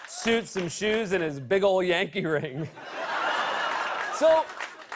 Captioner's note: laughter